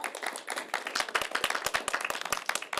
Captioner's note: applause